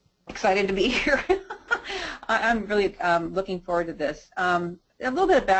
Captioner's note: chuckles